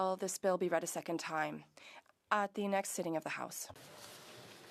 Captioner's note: speaking French